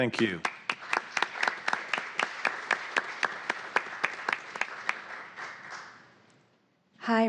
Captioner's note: applause